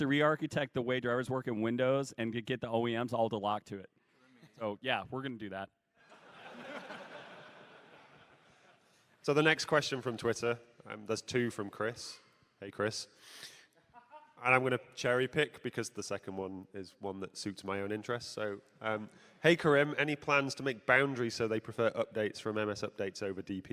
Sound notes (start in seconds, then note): 7.9 laughter